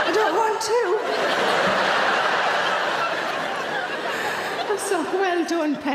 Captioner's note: audience laughing